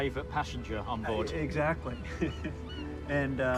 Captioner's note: chuckles